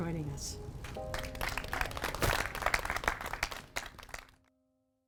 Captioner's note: applause